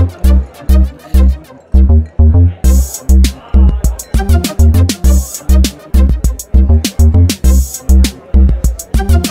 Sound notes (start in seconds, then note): 4.4 crowd talking